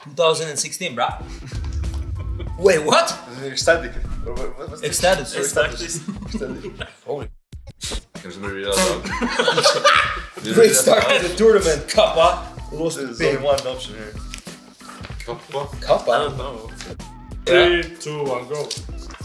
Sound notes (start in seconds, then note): 5.4 people laughing; 8.7 people laughing